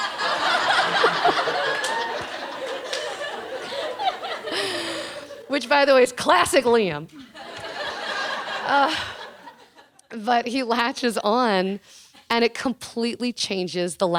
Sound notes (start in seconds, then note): 0.0 laughing; 7.1 laughing